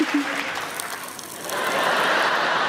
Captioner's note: space dust crackling; audience laughing